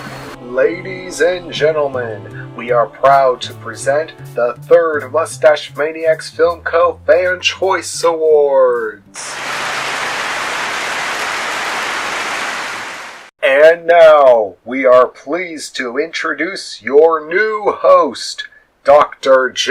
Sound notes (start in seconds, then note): 9.3 clapping